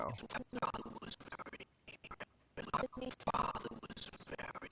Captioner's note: audio skipping